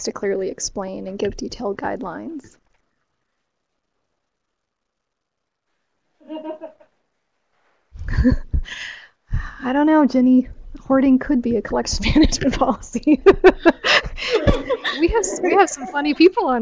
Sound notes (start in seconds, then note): 6.3 laughter; 13.0 laughter